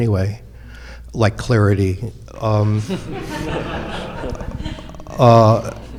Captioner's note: audience laughing